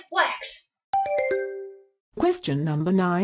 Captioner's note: question ding